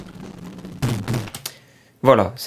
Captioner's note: pffrt